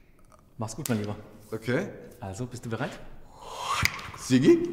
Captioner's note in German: schnippst